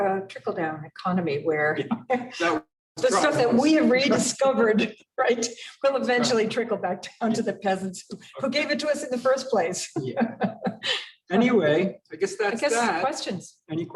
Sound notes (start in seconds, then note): 9.9 laughs